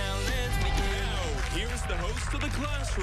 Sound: cheers and applause

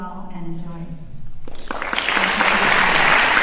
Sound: applause

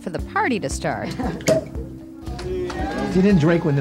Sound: someone laughs; people cheer

